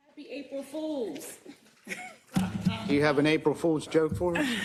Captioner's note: laugh